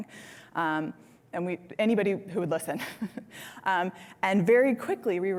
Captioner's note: laughs